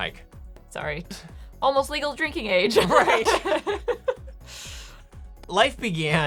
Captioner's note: laughing